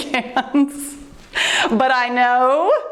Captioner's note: laughs